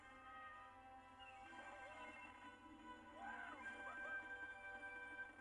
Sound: Kermit screaming excitedly; Kermit whooping

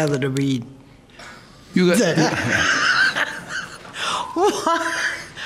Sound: laughs loudly

